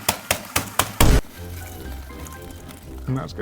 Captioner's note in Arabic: قرع بالمطرقة; دوي الانفجار